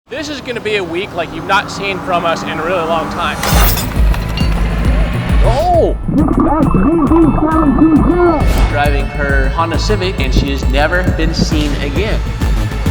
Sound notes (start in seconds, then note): 3.4 chain snapping; 3.6 upbeat action music; 5.4 exclaiming